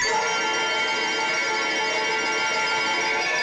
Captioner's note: bell ringing